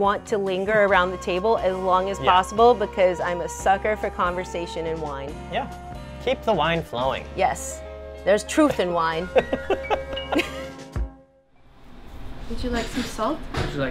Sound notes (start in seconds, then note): 9.2 laughing